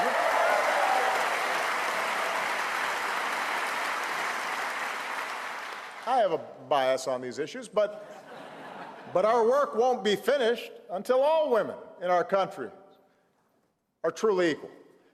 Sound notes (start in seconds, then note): 0.0 applause; 8.0 laughter